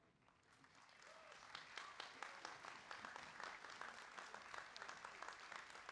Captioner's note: applause